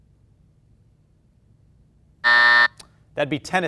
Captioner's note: buzzer buzzing